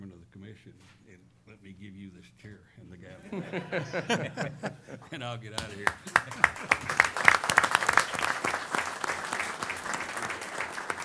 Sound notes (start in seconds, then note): 3.1 laughter; 5.6 applause